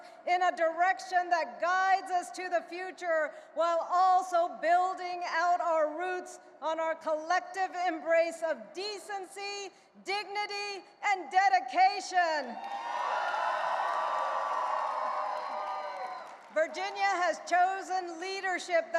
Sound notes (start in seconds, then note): 12.6 audience cheering and applauding